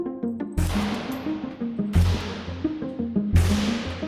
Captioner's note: gun fires